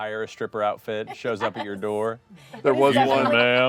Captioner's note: laughs